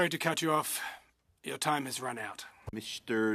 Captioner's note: speaking in French